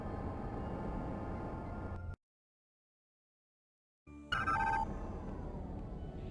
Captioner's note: phone ringing